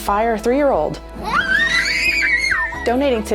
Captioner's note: screaming